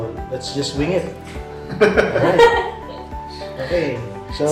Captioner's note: laugh